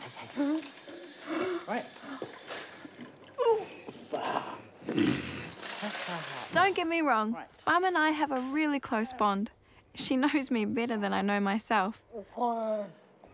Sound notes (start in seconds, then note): 4.1 grunts